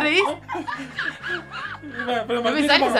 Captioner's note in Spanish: imita su risa